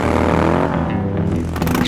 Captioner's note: tires squeal